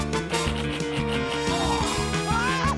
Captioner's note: groans; exclaims